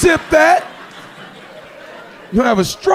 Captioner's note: audience laughing